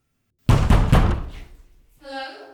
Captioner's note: knocking on door